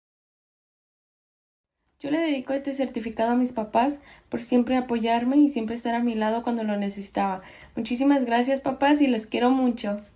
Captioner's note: speaking Spanish